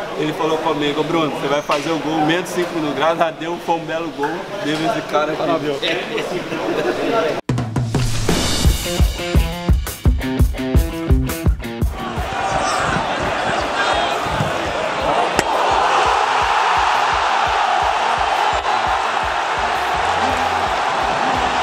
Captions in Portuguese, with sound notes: ele falou que eu faria o gol em menos de cinco minutos. Esse belo gol foi dedicado a ele! [SONS DA TORCIDA] [GRITOS DE GOL]